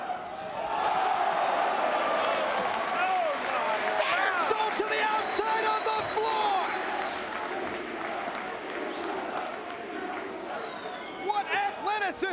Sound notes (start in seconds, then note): 0.8 crowd cheering